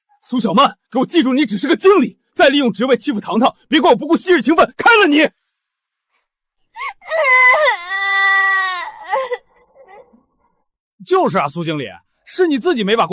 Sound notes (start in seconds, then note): 6.8 screams